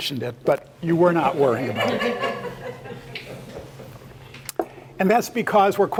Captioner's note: laugh